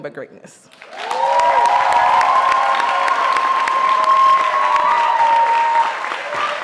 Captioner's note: audience cheering and applauding